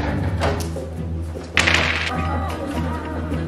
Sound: dice rolls

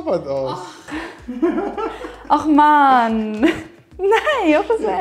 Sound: laughing

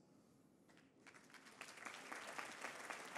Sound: applause

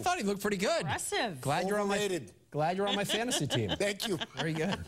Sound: laughter

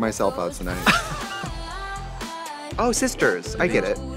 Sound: upbeat music; Katya laughs

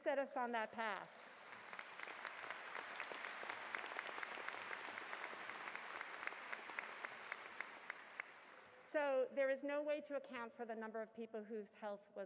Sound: applause

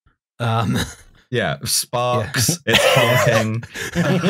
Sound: laughter

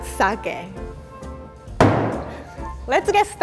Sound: bangs

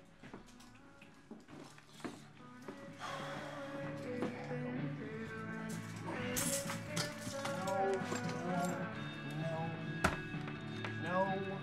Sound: Footsteps, ruffling, bluetooth speaker music

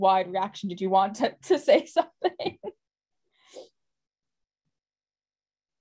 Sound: laughs

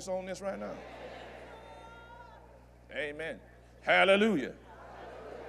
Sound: audience Affirms

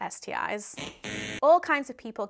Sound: buzzer buzzing

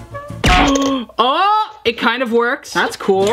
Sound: washer falling

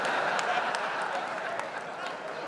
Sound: laughter

